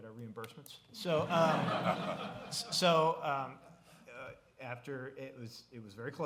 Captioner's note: laughter